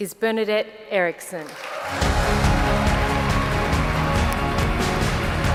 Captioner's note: applause